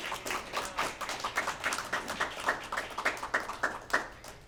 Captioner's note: applause